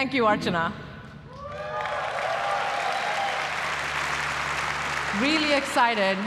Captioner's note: applause